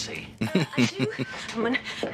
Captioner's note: chuckles